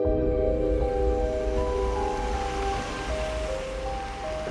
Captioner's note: engine whirs